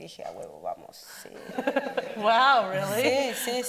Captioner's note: speaks Spanish; audience laughing; speaks Spanish